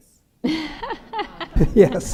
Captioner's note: laughter